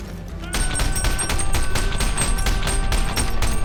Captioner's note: shouting